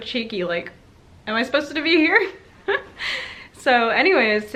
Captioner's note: laughs